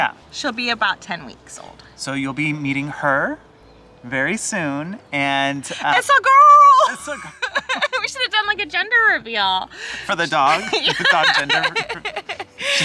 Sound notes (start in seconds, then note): 6.8 laughing; 10.4 laughing